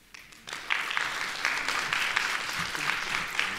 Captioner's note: applauding